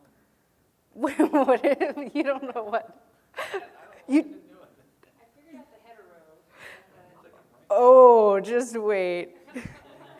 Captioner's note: laughing